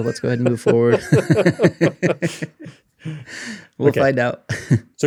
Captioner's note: laughing